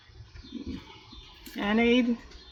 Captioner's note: laughs